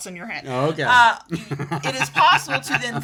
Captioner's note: laughs